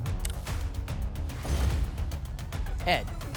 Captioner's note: thump; whoosh